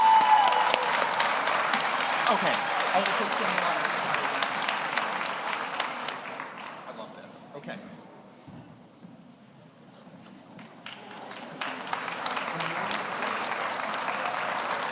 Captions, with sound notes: (audience cheers) (audience applauds) Okay. (speaking off mic) I love this, okay. (audience applauds)